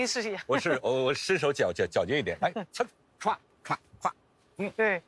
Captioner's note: laughs